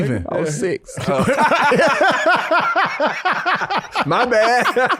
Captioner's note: everybody laughing